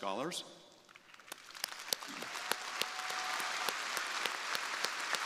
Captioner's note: crowd applauding